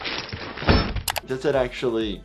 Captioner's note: metal clanking